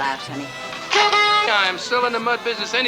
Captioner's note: noisemaker shrills